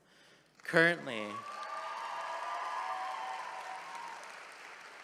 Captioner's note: attendees applauding